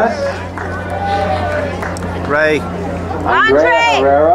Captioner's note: crowd cheering